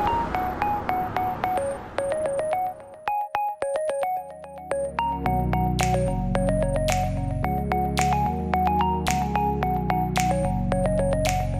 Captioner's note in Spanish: Car Pass-By